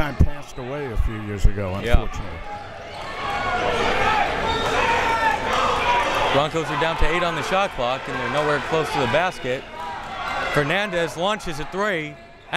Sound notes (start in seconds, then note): 3.3 crowd members shouting